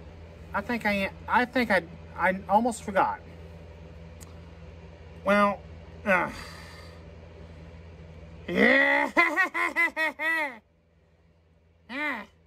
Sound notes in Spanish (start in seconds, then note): 4.9 Caprice se ríe; 4.9 tartamudea